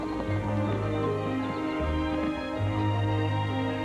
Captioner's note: laughs